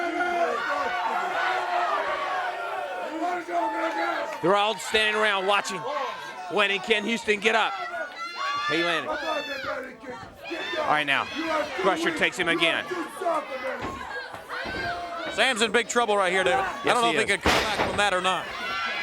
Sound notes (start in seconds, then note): 7.4 crowd cheering; 10.0 crowd chatter; 13.4 crowd cheering